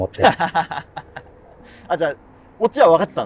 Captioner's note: laughing